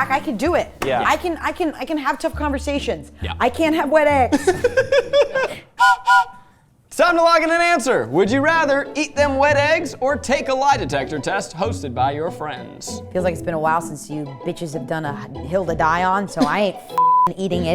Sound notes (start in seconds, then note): 4.4 laughing; 5.8 train whistle blowing